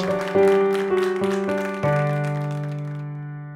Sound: applause

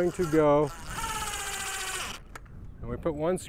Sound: drill whirring

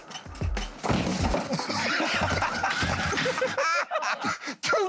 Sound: laughter

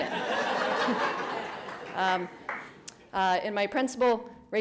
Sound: crowd laughing

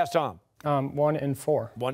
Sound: timer

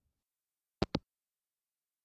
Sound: hangup

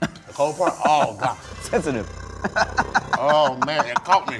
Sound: growls; laughs

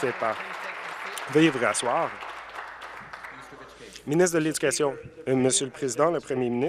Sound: applause

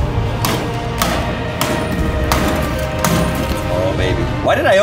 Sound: crowbar banging

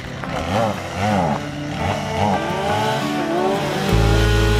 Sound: chainsaw roaring

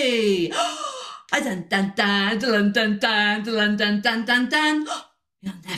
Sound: gasp; gasp

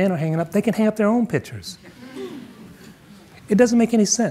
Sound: audience murmuring

